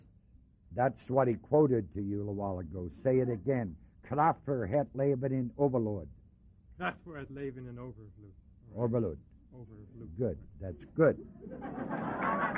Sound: reads in Dutch

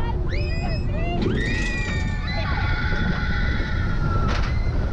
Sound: passengers scream

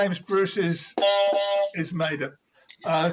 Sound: honk, honk

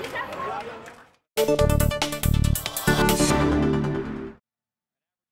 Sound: applause

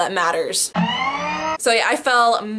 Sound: siren

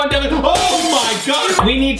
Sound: glass crashes

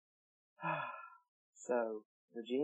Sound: raven sighs contentedly

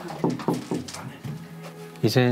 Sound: knock knock

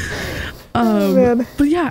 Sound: laughing

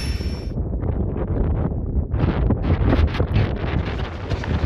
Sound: fan fades out; wind picking up

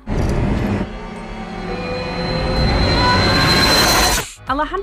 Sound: intense screaming and screeching

